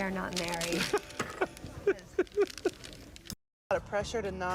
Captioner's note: Jerry laughs